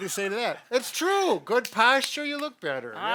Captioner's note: claps